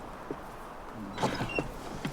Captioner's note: thuds